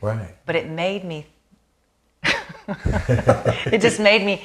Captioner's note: laughing